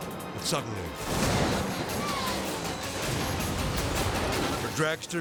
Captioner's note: edgy dramatic music; car crashing